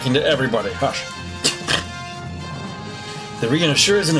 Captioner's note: chortles